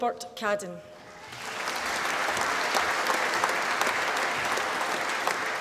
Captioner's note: applause